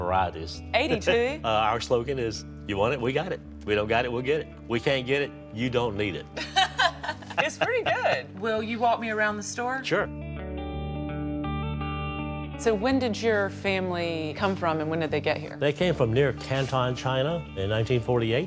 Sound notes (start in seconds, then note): 6.4 laughing; 10.5 gentle music